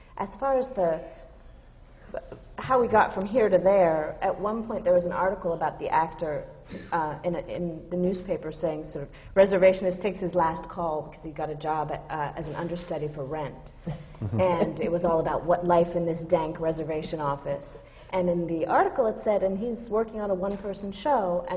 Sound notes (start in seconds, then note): 13.8 laughs